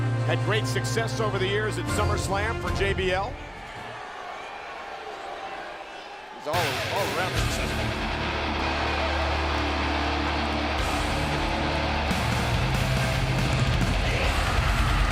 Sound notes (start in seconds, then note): 4.1 crowd cheers; 6.6 intense rock music; 7.1 crowd cheers